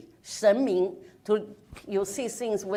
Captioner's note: speaks in foreign language